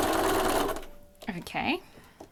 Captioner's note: sewing